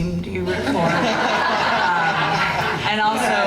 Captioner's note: laughing